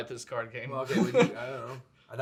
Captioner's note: chuckles